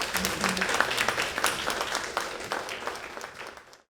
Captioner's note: applause